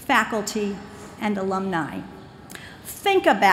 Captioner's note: none